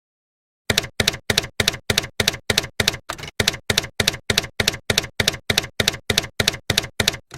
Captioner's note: typewriter keys clacking